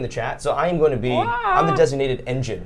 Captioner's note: whines